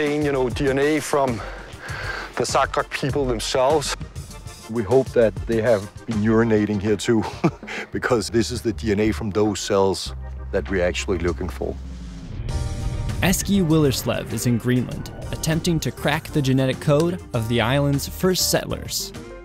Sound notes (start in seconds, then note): 7.1 chuckles